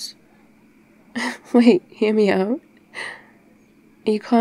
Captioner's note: laughs